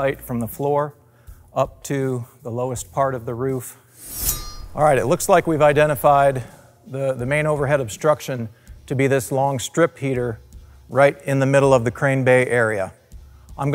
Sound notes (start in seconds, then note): 4.0 sword slicing